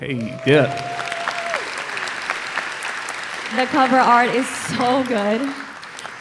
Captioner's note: applause